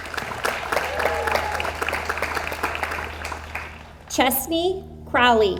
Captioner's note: audience applauds